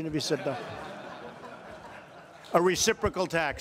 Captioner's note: laughter